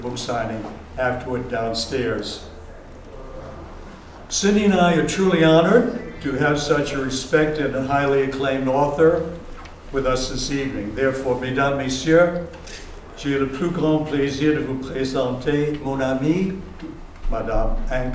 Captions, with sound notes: book signing afterward-- downstairs. Cindy and I are truly honored to have such a respected and highly acclaimed author with us this evening. Therefore, [FRENCH].